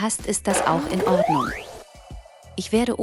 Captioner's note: skateboard wheels rumbling